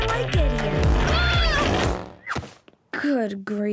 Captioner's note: Charlie yelps